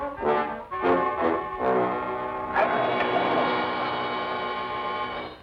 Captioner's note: wolf growls